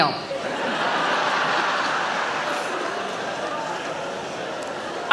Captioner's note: audience laughs